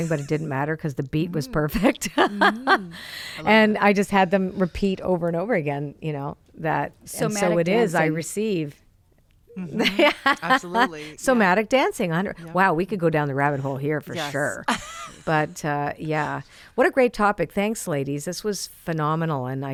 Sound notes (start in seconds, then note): 1.6 laughs; 9.6 laughs; 14.1 laughs